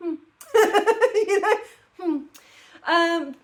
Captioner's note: laughing